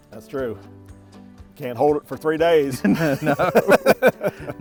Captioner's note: laughs